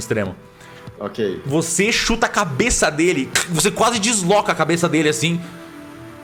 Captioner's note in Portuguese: crack